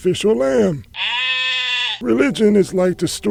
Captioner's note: sheep bleats